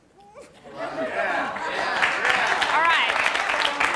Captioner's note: cheering, applause